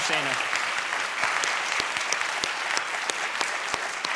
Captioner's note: applause